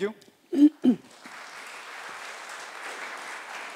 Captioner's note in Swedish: Applause